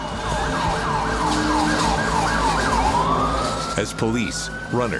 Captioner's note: sirens blaring